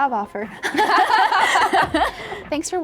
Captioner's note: both laughing